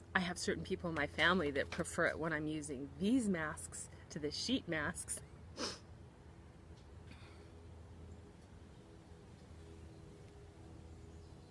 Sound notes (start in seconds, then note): 5.6 sniffs; 6.1 airplane whirring; 6.3 birds chirping